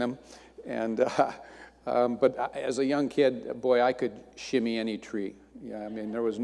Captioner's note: chuckles